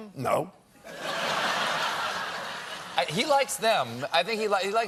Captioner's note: laughter